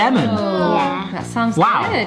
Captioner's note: groaning